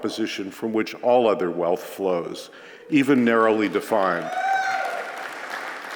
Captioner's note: applause